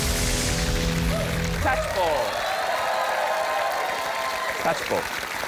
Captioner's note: rock guitar solo; cheering, applause